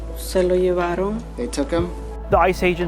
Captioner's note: spanish